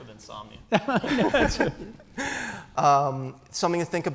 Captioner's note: laughter